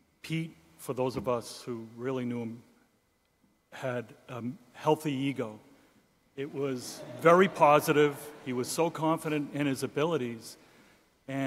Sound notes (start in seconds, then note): 6.4 audience laughing